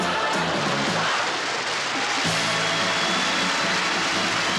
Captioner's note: applause